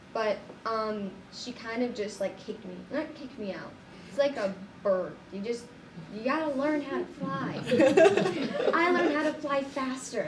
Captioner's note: all laugh